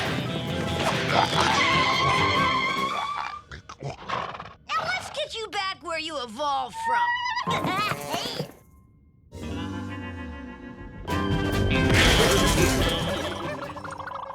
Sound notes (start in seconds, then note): 0.7 dinosaur skids; 9.3 western music; 12.0 thief twirls and blubbers